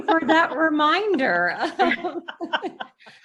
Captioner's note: laughs